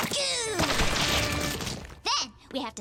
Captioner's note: splats